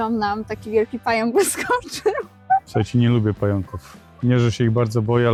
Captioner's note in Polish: śmiech